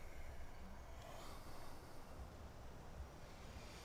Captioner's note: sighs